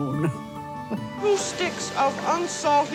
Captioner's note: chuckles